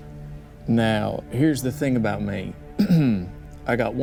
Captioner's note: clears throat